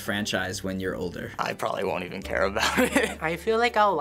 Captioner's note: laughs